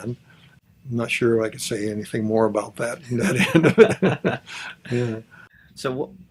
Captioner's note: both laughs